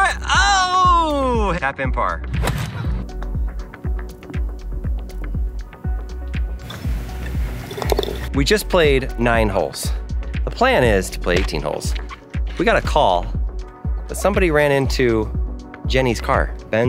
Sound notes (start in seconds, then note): 2.4 ball thwacking; 4.4 gentle music